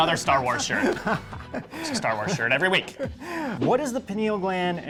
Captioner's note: laughing